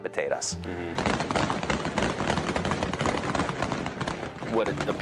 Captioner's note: automatic weapons chatter